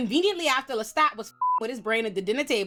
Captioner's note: beep